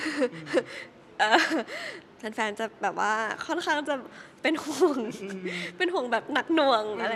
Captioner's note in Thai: เสียงหัวเราะ